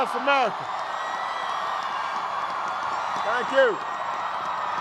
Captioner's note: cheers